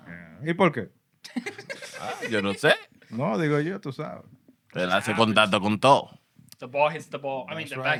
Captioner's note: speaking Spanish